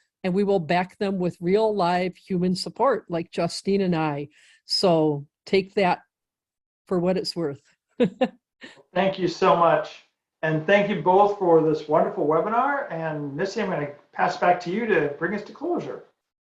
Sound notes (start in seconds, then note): 8.0 chuckling